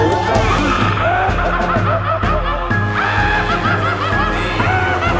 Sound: voices repeating "vote for me"; evil laughing; voices continuing

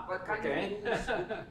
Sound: chuckles

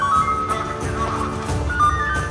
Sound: radio voices

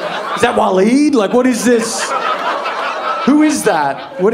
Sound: audience laughing

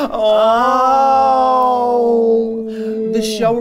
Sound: groaning

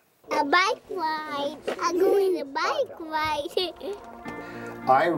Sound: laugh

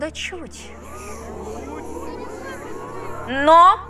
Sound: shouts of fright, unpleasure

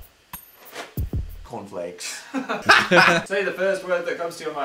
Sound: seductive music; laughing

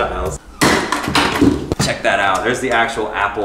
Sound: banging

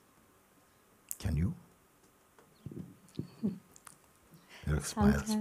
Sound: questioner 2 laughs

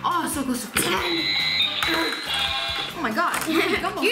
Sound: skeeball noise

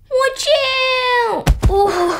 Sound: thud

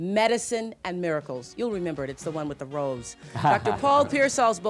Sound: chuckles

